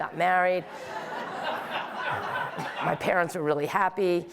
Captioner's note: audience laughing